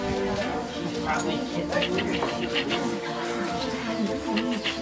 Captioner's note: townspeople gasping and whispering